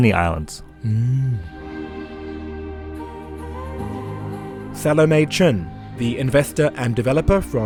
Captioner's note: voiceover